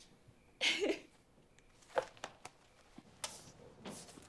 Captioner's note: Eliza laughs